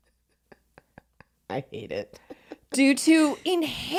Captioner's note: laughs